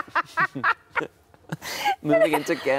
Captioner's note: Sarah laughing